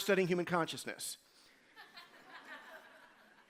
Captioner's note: laughter